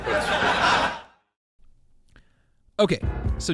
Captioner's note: crowd laughs